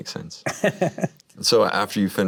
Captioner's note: Diego laughing